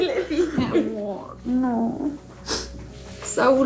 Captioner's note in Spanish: Sollozos